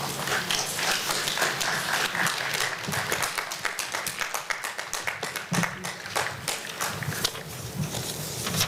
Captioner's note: applause